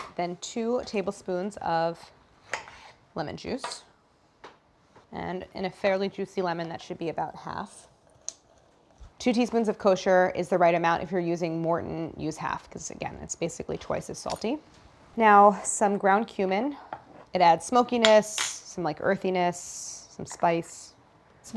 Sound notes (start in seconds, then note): none